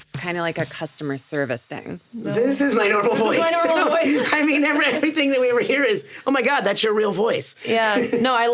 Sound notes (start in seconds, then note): 2.8 Richard laughs; 4.9 Sarah laughs; 7.8 Richard laughs